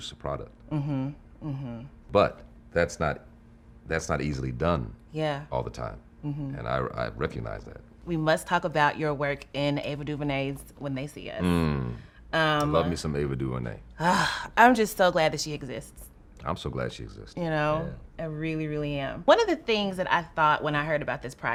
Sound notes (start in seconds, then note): 14.0 exhaling heavily